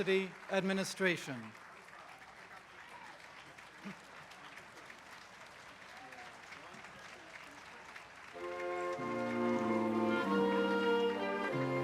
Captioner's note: applause